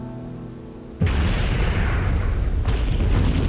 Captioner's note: explosion